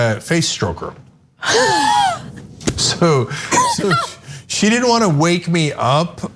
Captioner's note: laugh